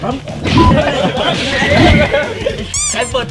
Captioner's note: laughs